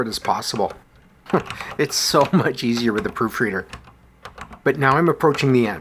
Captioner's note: chuckles